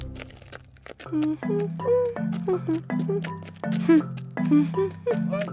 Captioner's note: humming